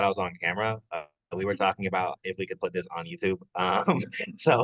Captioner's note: chuckles